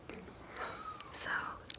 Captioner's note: laughing